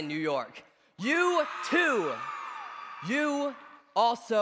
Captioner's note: cheers